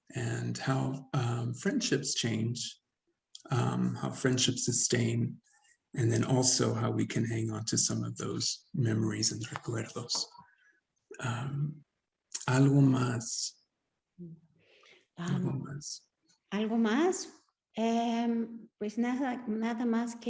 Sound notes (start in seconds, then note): 9.2 speaks Spanish; 16.6 Sandra speaking Spanish